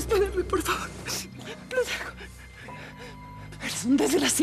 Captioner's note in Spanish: sollozos